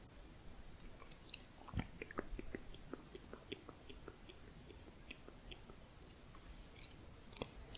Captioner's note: tongue clicking